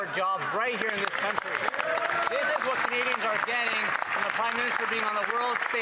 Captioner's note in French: voix de l'interprète